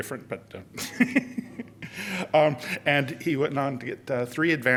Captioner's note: laughter